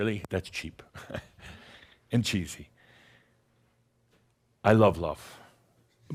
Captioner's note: chuckles